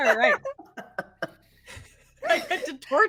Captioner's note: everyone laughs